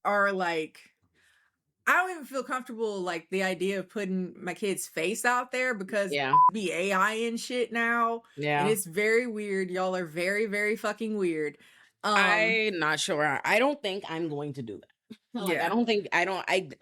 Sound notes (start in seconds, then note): 6.2 beep